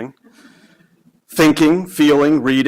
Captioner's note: audience chuckling